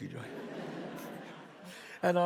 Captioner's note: audience laughs